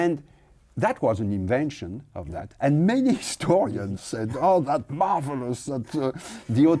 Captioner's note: laughs